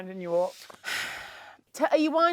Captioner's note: sighs